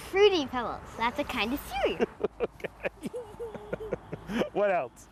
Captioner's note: laughing